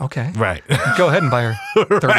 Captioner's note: laughs